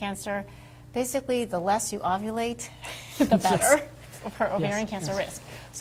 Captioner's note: laughs